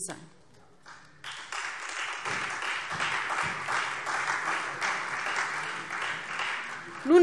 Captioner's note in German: Beifall SPD und Freie Demokraten